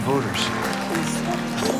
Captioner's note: applause; words drowned by applause